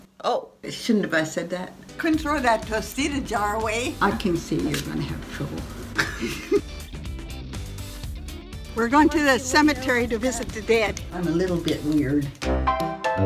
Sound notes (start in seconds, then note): 5.9 laughing; 10.1 upbeat piano music